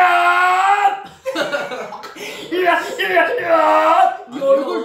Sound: noises continue

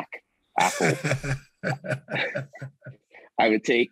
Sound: all giggling

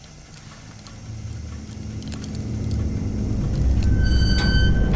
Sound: ominous sounds

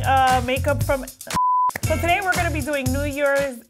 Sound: beeping

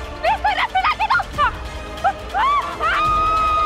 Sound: screams

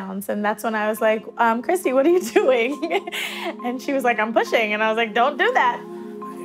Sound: breathing sounds

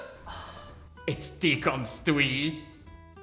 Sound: sighs

